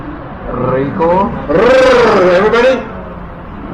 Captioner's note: rolling tongue sound